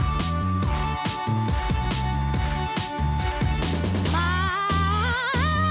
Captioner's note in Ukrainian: оплески